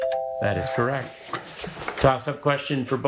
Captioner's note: bell ringing